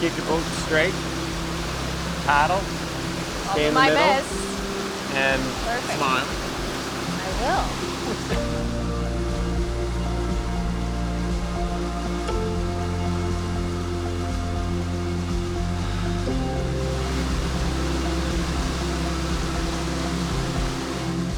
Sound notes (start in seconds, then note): 12.0 birds singing; 12.0 peaceful music